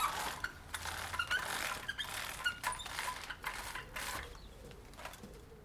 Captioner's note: blinds being pulled up